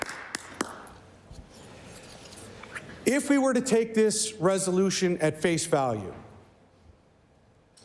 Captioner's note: some Applause